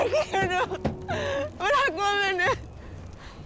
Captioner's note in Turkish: Ağlama Sesleri